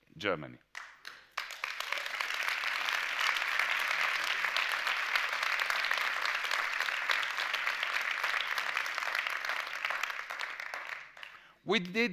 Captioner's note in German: Applaus